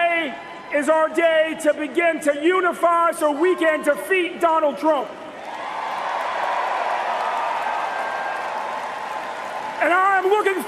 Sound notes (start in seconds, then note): 0.0 cheers and applause